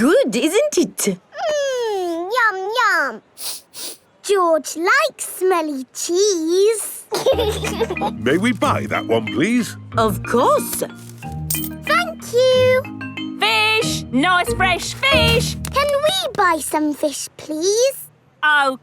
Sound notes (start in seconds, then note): 3.4 sniffs; 7.1 laughing